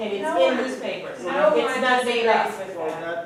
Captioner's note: talking